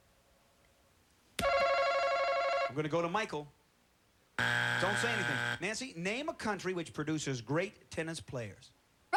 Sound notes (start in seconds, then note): 4.4 buzzer